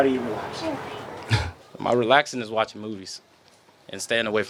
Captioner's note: laughs